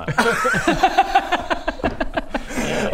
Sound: unconvinced giggles

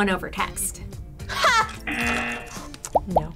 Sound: chuckles; buzzer

